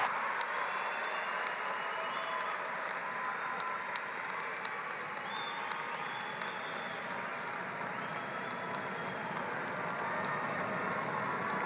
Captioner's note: applause